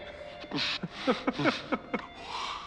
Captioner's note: laughs